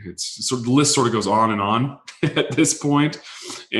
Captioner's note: laughs